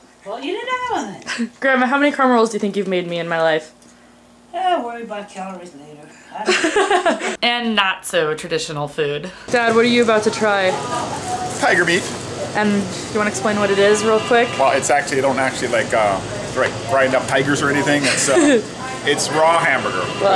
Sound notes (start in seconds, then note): 6.4 laughs; 17.9 laughs